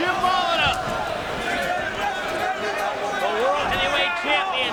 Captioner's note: crowd chattering